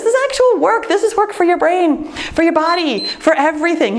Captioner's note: timer beeps